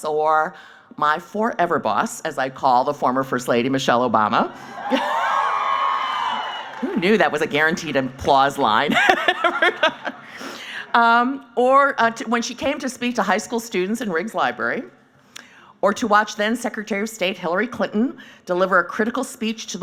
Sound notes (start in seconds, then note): 4.6 cheering; 8.9 laughing